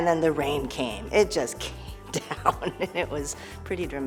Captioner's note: laughs